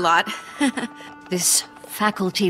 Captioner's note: laughs